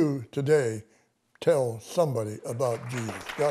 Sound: clapping

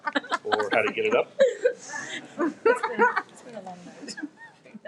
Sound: members giggle

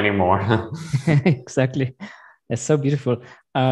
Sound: laughs

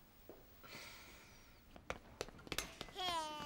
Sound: sighing

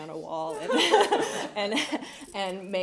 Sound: laughter

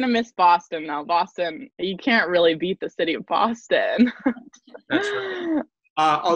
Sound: laughs

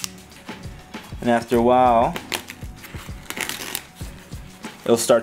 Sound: tearing

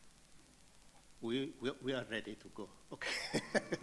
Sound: chuckles; audience laughing

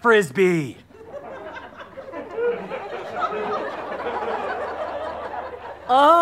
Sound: audience laughter

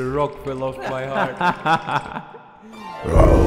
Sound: 11/10 voice acting laugh pt.2

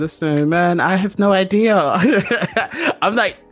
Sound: laughs

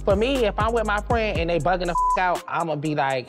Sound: beep

